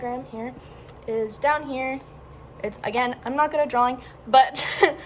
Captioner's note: laughs